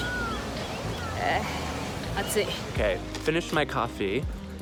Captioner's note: speaking foreign language